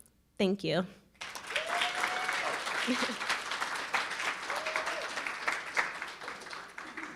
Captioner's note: audience cheering and applauding